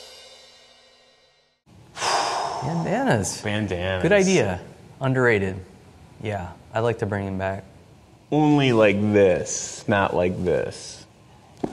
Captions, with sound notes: [exhale] - Bandanas! - Bandanas. - Good idea. Underrated. Yeah, I'd like to bring them back - Only like this, not like this.